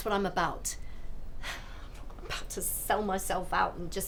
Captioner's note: sighs